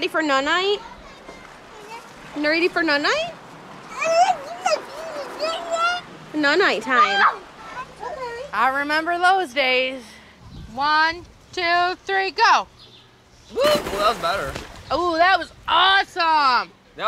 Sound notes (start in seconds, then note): 3.9 cries; 13.5 water splashes